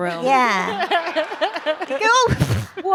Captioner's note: laughter